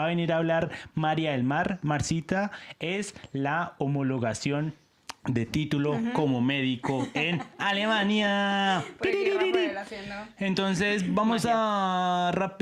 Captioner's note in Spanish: risas